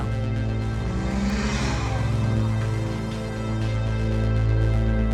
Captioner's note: car engine revs